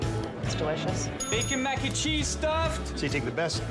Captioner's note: bell dings